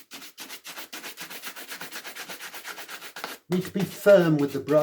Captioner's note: brush scratching